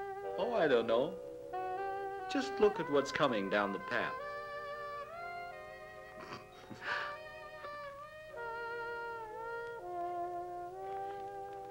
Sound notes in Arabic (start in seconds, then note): 6.2 جو يضحك; 8.6 موسيقى حارة